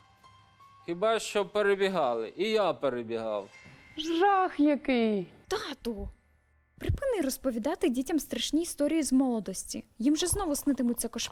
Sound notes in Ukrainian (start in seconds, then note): 5.1 голос з-за кадру